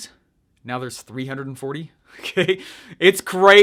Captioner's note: laughs